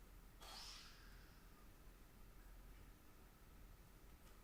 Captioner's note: performer exhales